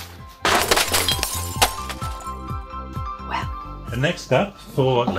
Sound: glass smashes

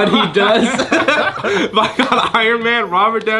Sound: laughs

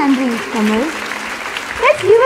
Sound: audience claps

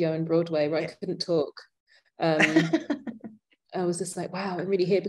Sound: laughing

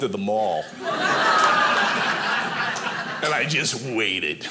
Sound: audience laughing

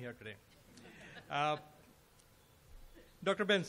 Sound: laughter

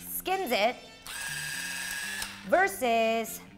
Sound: machine whirs

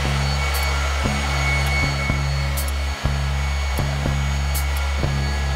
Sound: clock ticking with machinery sounding

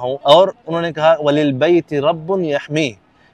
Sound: Arabic

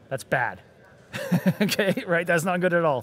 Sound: laughs

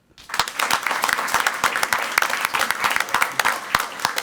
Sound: crowd clapping

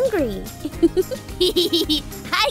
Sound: giggles

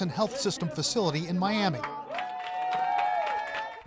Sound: audience applauding

